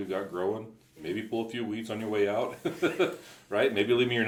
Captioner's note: laughs